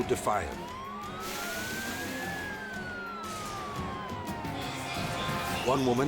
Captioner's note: sirens wailing; water splashing